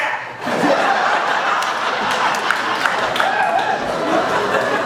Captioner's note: laughter